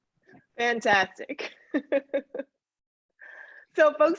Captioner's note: laughs